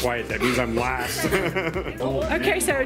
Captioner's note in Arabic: يضحك